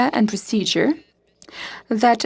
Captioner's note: speaking FRENCH